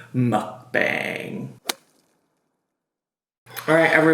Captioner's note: transition splats